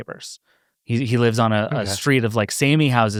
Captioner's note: panelists laugh